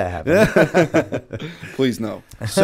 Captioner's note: laughter